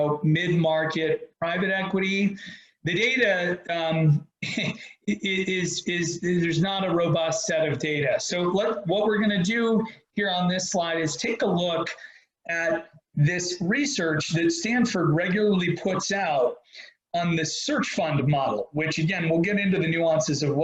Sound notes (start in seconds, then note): 4.4 chuckles